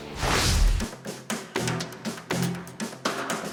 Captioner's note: swooshing; suspenseful music